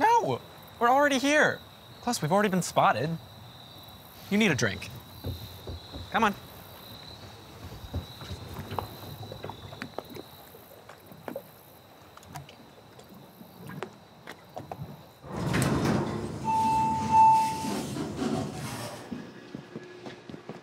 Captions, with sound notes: No, we're already here. Plus, we've already been spotted. You need a drink. Come on. (doors shuttering) (bell dinging)